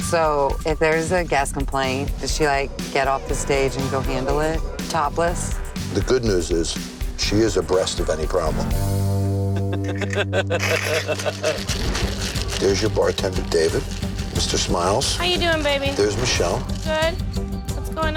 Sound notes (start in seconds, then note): 9.4 laughing; 10.6 shaker shaking